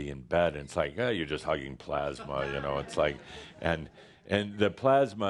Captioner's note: some chuckles